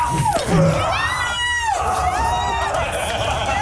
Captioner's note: everyone cheers; yell